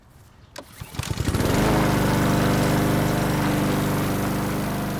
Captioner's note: engine rumbling